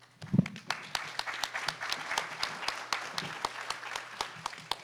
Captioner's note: audience applauding